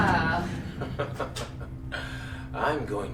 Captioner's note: Vincent laughs